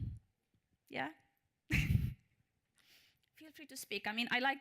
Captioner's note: chuckles